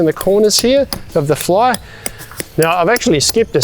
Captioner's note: hammer tapping